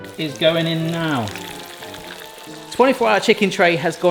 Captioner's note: oil bubbling